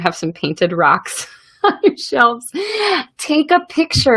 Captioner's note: laughs